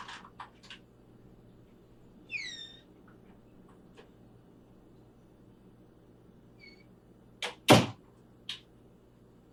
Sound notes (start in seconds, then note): 2.3 door creaks